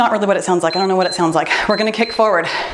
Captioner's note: timer beeps